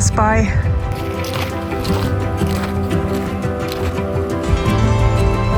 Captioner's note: sound of footsteps